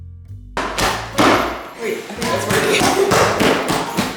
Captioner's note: bag thumping